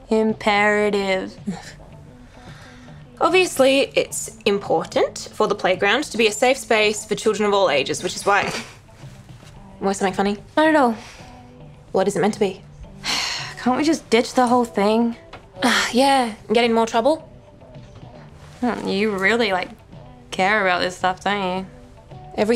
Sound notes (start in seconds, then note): 9.0 Heidi scoffs